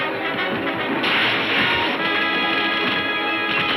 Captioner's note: railing crashing